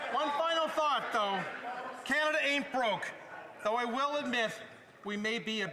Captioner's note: some Applause